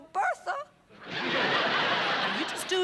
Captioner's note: laughter